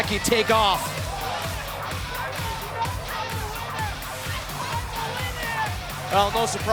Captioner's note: crowd cheering